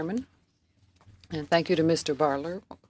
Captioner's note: speaking French